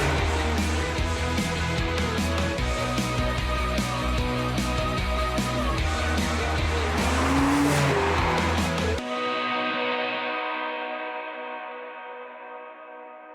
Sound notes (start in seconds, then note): 0.0 engine roaring; 0.0 upbeat music; 6.8 engine roaring; 8.4 upbeat music